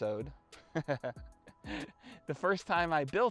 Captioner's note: laughs